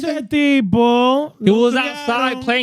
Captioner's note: speaking Foreign Language